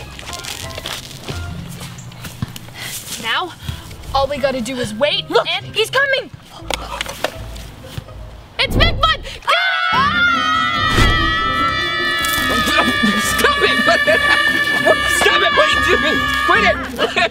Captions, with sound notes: - Now, all we do is wait, and... - Look, he's coming! - It's Bigfoot! - Go! - Get him! (all shout) - (laughs) Stop it! Stop it, what are you doing?! Quit it! (laughs)